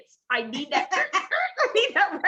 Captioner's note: laughing